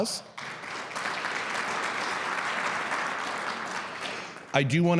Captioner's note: audience clapping